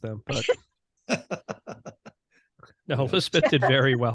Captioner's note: laughing